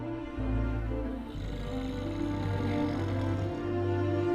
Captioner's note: man snores